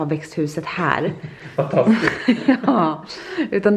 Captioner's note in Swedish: skrattar